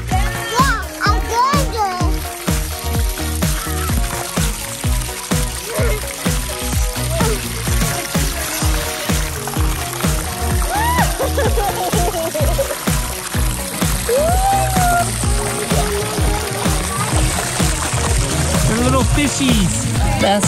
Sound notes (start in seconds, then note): 11.0 laughter